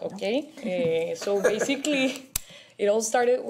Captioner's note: laughter